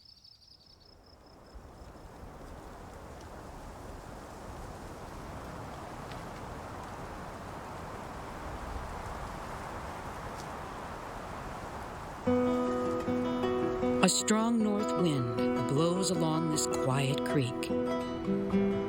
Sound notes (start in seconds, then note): 1.4 wind blowing